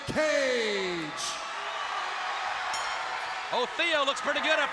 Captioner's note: crowd cheering; bell ringing